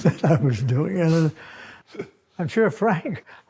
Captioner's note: both laugh